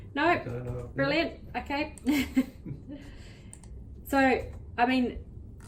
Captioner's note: chuckles